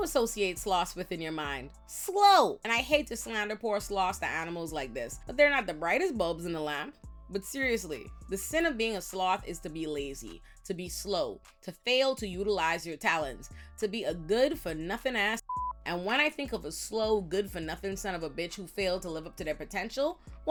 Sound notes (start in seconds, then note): 15.4 beep